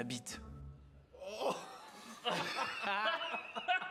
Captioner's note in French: rires